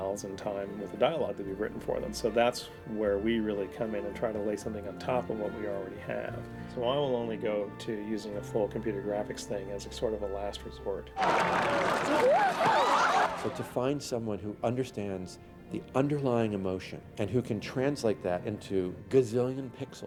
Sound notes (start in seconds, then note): 11.2 whooping